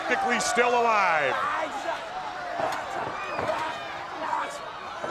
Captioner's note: crowd yelling